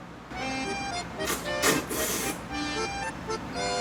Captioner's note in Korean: 후루룹